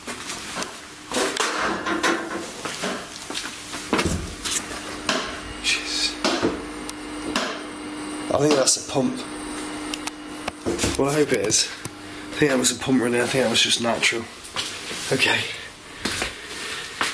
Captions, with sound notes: (clattering) Jesus. I think that's a pump. Well, I hope it is. I think that was a pump right now, I think that was just natural. Okay.